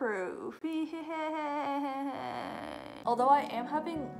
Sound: laughing

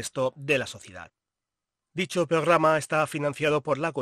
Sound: none

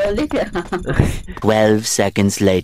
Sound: laughing

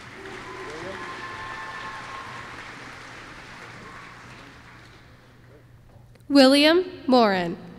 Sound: applause

